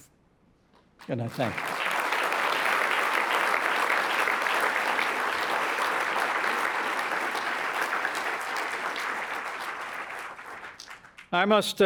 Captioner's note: applause